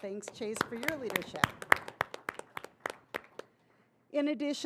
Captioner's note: audience applauding